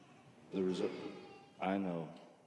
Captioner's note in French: Bébé pleure